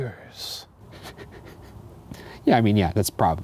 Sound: laughs

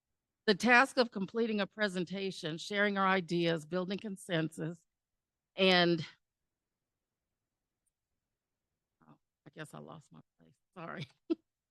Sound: chuckle

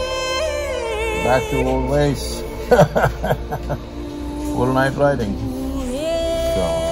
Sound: laughs

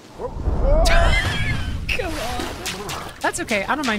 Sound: laughter

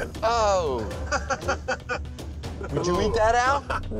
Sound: laughs

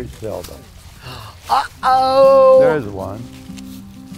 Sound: gasps

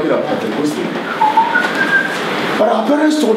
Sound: lecturer whistling

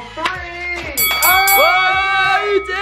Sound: bell ringing

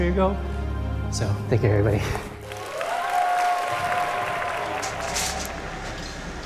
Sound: audience cheers

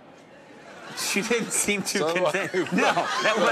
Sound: laughing

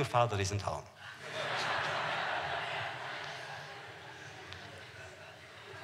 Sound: laughter

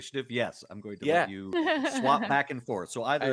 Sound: giggles

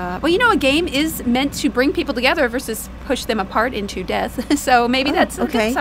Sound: laughs

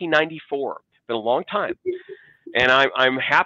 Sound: chuckles

